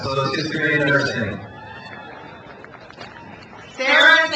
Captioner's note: crowd cheers